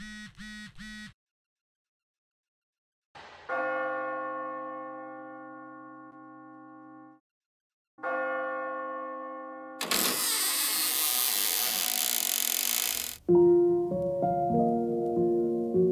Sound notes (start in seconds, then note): 3.4 church Bell Sound; 9.8 door creaking